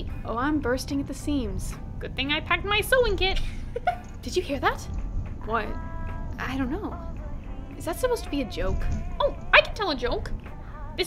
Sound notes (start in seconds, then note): 3.7 muffled giggle